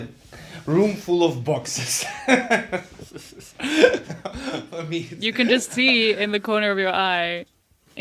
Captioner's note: laughs